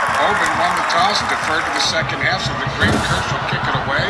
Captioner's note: radio Announcer